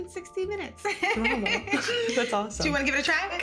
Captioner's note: both laughing